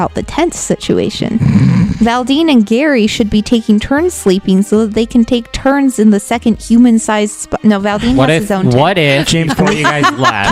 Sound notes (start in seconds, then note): 1.2 laughs; 9.2 laughs